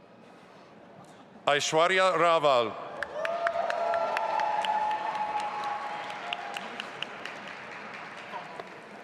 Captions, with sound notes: Aishwarya Raval. (audience applauding)